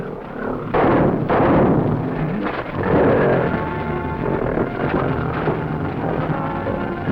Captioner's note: gorilla grunting; gunshots firing; tense music